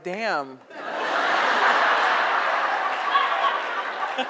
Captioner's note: audience laughs